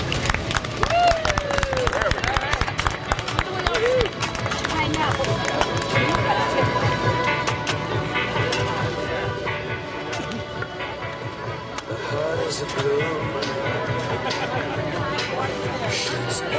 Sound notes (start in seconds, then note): 0.0 cheers and applause